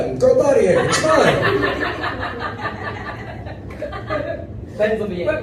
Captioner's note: laughter